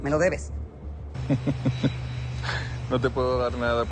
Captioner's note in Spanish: Risas